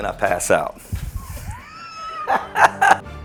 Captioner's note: laughs